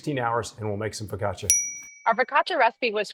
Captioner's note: bell dings